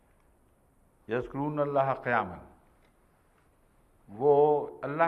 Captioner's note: Arabic